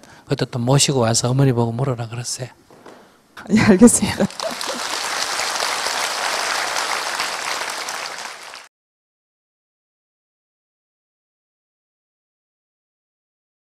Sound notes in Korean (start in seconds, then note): 3.4 질문자 웃음; 4.1 청중 박수